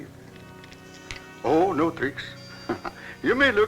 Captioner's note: laughs